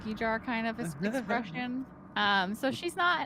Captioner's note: Cornette chuckles